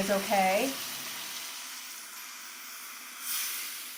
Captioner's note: food sizzling